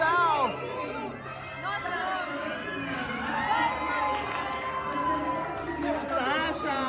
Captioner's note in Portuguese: gritos